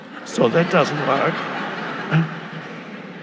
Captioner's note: audience laughing